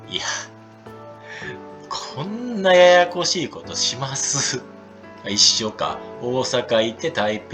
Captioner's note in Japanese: 息をのむ音